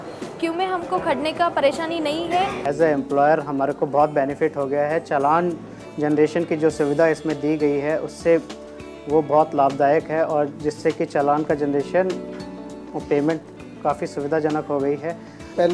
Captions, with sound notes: - As an employer, [NON-ENGLISH] benefit [NON-ENGLISH] generation or payment [NON-ENGLISH].